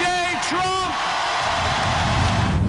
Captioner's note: applause